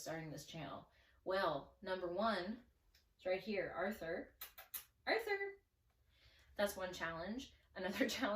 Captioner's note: kiss noises